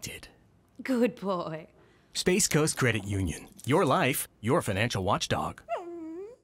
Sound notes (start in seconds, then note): 5.6 Watchdog whines